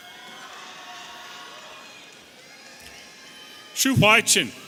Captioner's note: audience cheering